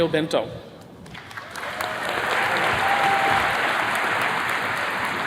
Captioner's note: attendees clapping